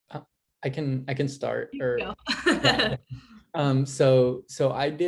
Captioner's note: laugh